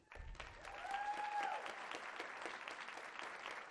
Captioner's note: applause